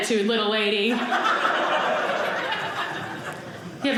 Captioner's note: audience laughing